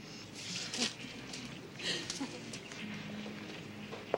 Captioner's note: girl chuckles